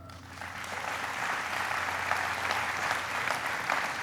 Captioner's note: applauding